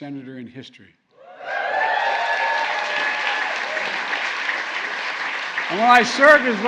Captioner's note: applause